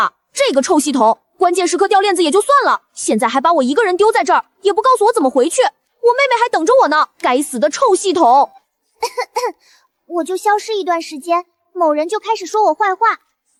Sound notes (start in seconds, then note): 9.0 cough cough cough